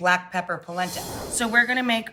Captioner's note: whooshing